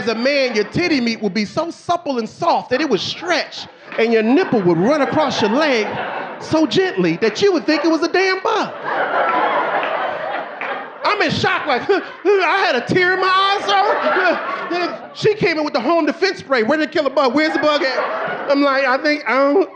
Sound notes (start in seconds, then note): 10.0 audience laughing; 11.1 sobbing; 15.5 audience laughing